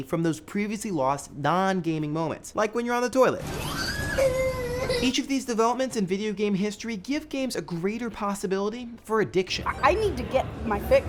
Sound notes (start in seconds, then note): 3.6 crying